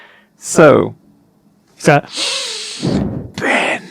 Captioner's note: sniffs